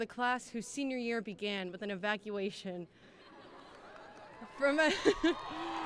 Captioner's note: cheering